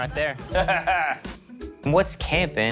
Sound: laughing

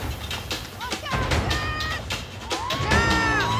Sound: cheering

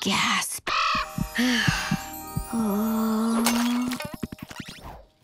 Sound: sighing

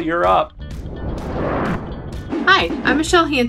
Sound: swoosh

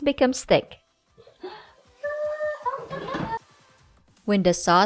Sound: pot lid thud

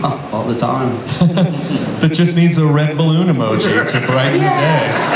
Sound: laughs

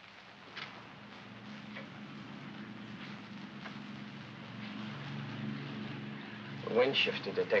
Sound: aircraft rumbles in distance

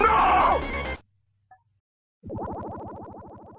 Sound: bloop

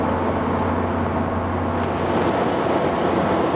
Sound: wind howls

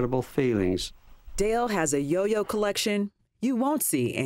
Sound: voiceover

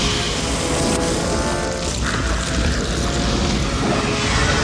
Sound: Jafar hissing

